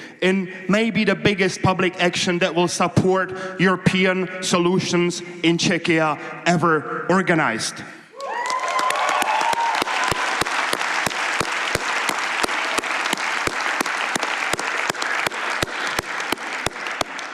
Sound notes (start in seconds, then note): 7.6 applause